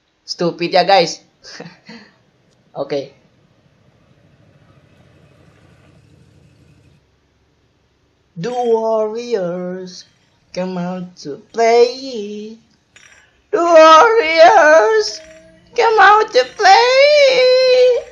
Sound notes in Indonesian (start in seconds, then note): 1.4 Laugh